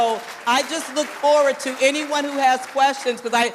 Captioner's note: applause